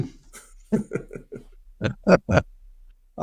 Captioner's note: laughing